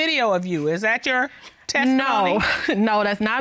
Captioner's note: chuckles